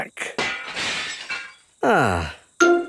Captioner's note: glass shatters